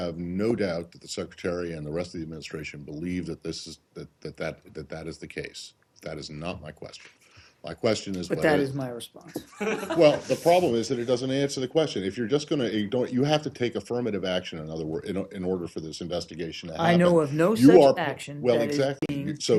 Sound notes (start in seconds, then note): 9.3 laughter